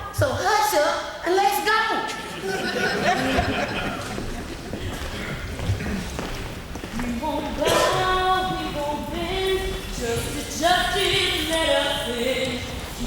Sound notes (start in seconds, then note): 2.2 audience laughing